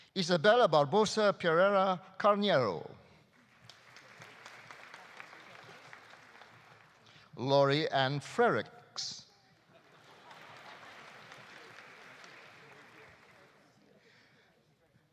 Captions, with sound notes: Isabella Barbosa Pereira Carneiro. (audience applauding) Laurie Anne Frerichs. (audience applauding) (audience laughing)